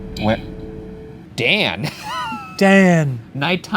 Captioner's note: laughs